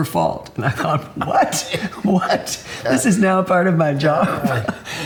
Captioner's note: laughs